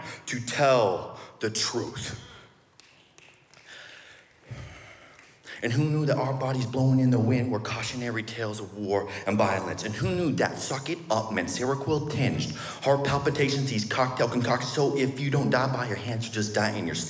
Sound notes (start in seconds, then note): 0.5 audience members snap fingers